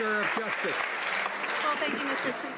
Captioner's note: some Applause